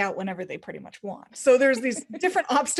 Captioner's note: laughing